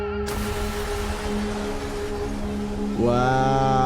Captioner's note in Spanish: vidrio roto